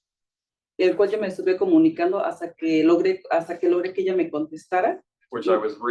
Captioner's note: speaking Spanish